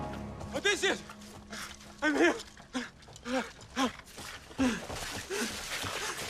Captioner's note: panting